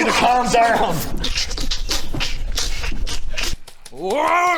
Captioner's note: pulverised hag noises